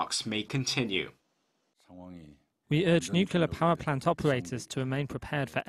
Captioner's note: Korean